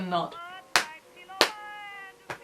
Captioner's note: claps twice